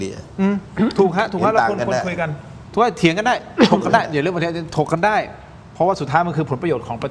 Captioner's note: clears throat